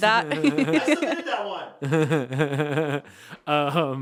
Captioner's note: laughing